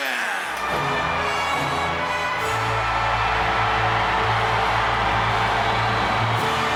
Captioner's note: audience cheering; regal music